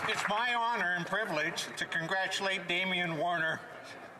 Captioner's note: some Applause